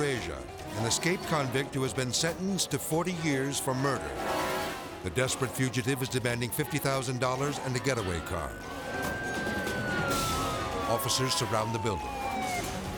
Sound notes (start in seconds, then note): 9.0 siren wailing